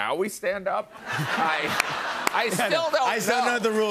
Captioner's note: laughter